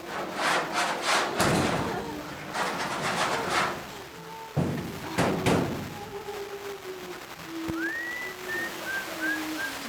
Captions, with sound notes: - There's gotta be a way to open this fucking door. (Woman singing) (door banging)